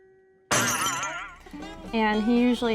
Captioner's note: glass breaks